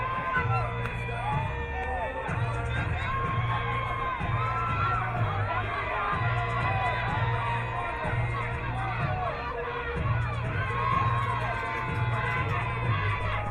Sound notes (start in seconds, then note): 0.5 rock music; 3.6 crowd cheering